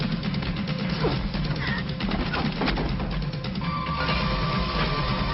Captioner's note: dramatic music; grunting; dramatic music